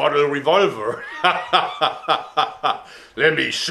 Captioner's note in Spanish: Risa masculina